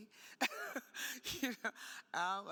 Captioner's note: laughing